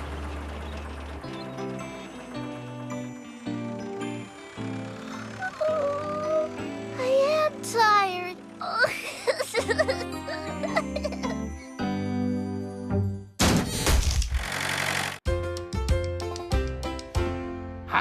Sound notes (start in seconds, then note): 5.6 yawns; 8.6 laughs; 14.3 engine Revs